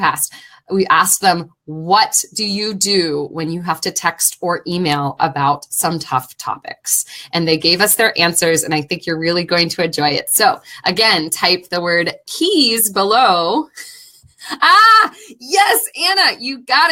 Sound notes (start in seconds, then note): 13.2 laughing